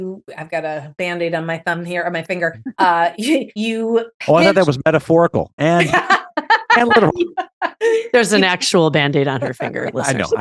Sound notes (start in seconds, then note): 5.5 laughs